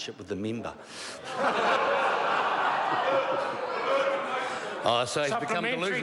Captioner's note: members laugh